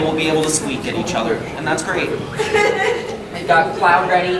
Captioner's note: audience laughs